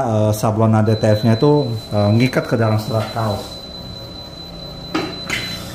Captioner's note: beeping sound; press machine noise